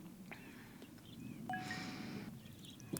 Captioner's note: phone chimes